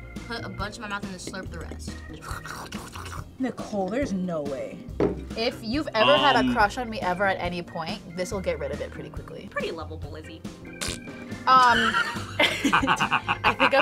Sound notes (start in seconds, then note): 1.9 slurps; 10.7 imitates fart; 11.5 laughs